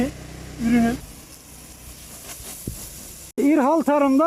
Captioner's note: the sound of the sprinkler while spraying